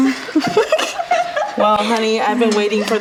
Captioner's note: laughs